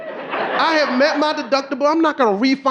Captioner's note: audience laughing